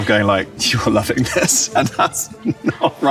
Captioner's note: laughs